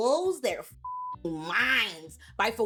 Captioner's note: beep